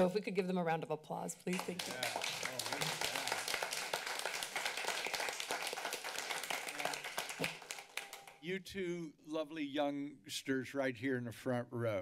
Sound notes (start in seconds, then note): 1.5 applause